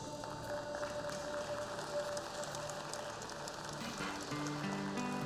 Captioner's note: applause